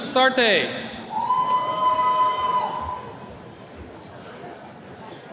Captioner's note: attendees cheering